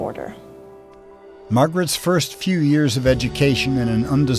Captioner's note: voiceover